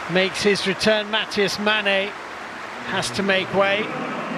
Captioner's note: applause; cheers and applause